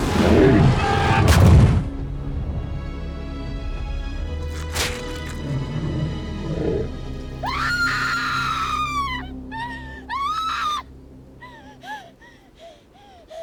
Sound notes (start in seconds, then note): 0.1 dragon growls; 2.2 foot thuds; 4.4 blood gushes; 7.4 Connie screams; 8.2 dragon growls